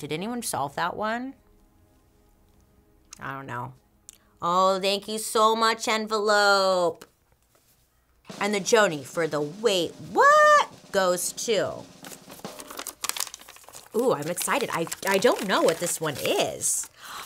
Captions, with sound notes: Did anyone solve that one? I don't know. Oh, thank you so much, Envelope. And the Joanie for the Wait-What?! goes to, (paper rustles) ooh, I'm excited, I don't know what this one is.